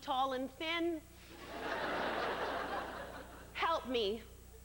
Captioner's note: laughter